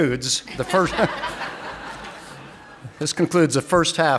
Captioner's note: audience laughing